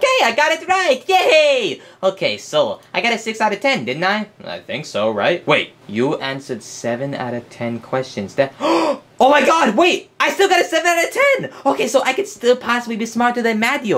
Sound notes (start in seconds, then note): 8.6 Luigi gasps